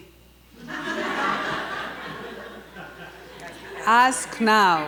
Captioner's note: audience laughter